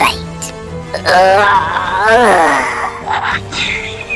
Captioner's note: Ding Dong grunts